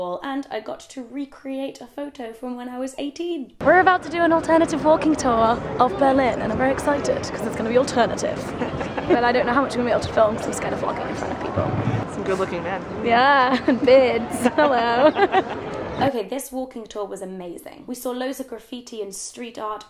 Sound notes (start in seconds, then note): 14.9 laughing